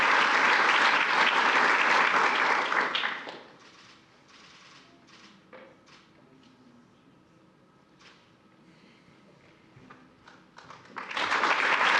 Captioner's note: applause